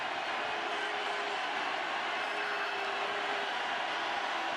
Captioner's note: crowd clamoring